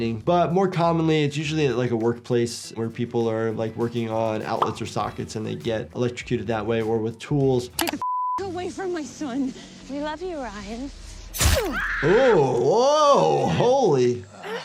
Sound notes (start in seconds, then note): 7.9 beep; 11.3 knife slicing; 11.5 victim screaming